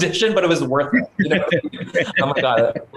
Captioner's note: laughter